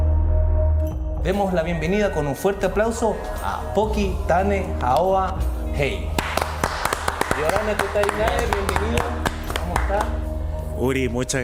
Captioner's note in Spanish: aplausos